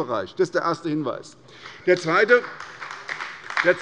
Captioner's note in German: Beifall bei der SPD und der LINKEN